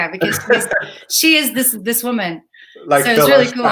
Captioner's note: laughs